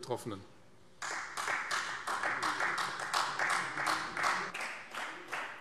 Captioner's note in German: Beifall Freie Demokraten